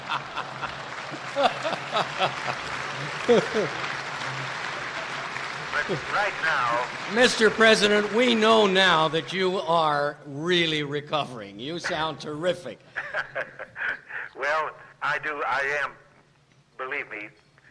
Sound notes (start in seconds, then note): 2.8 laughter; 12.9 laughing